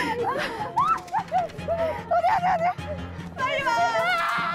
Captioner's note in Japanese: こちらは泣いている